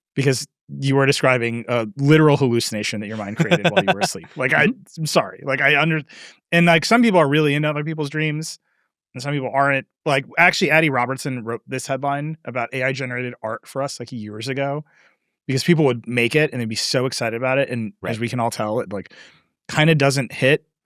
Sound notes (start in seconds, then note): 2.2 laughing